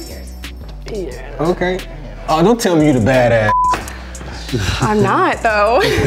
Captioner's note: beep